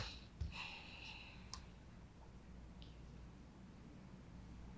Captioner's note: Lorraine sighing